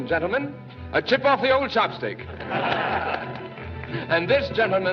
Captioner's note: crowd Laughs